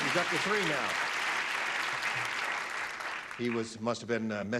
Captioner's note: clapping